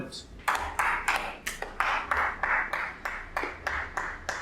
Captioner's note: group members clapping